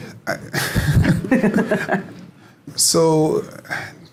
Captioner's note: laughing